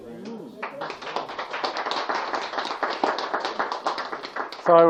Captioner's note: applause